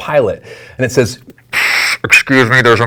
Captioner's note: sputters